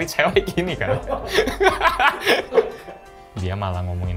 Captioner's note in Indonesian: tertawa